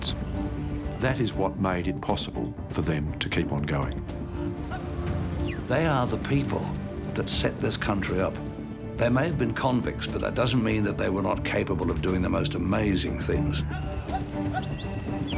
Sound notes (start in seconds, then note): 13.4 man shouting and whistling